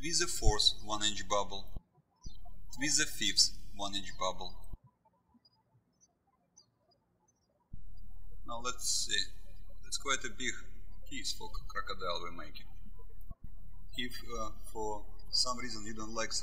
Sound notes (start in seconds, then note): 5.3 bird chirping